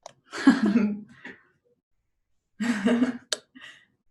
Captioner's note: giggling